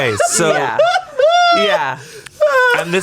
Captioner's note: laughs